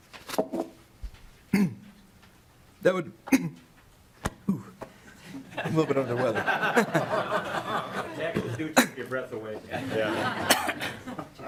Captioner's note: laughing